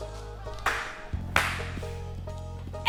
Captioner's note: hands clapping loudly from a distance